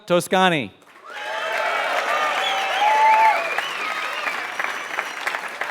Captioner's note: applause